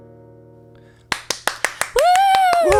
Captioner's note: clapping